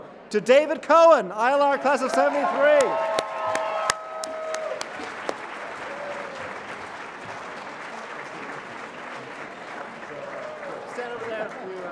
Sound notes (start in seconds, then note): 1.8 applause